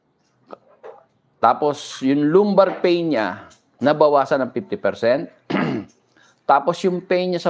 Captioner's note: clears throat